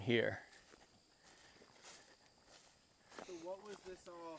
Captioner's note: insects chirping; footsteps crunching